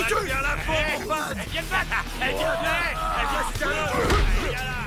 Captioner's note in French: les gangsters crient